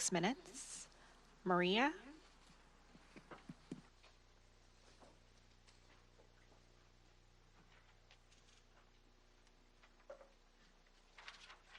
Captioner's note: speaking in Spanish